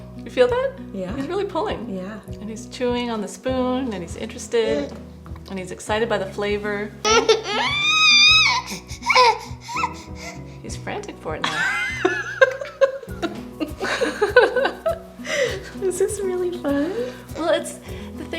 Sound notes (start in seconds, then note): 7.0 baby squealing; 14.3 laughter